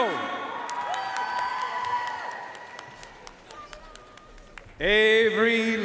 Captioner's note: audience cheering and applauding